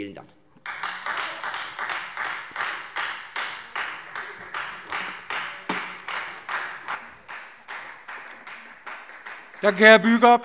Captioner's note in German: Beifall Freie Demokraten